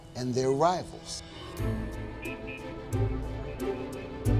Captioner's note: horns honking, fast music